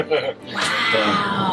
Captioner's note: laughter